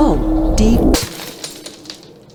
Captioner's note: skull shatters